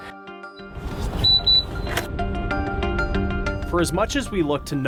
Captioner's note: pump beeps